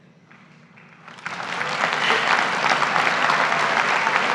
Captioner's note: graduates applaud